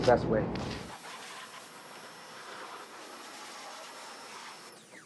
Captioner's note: pressure washer whirring